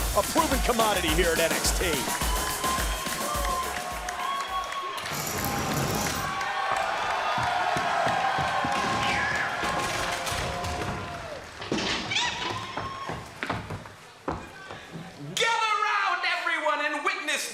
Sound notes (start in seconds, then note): 5.0 crowd cheering